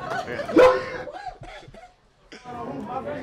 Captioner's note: people laugh; animated noises; people chatter